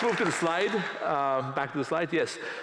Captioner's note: applause